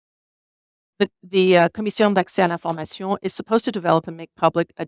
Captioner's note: speaks French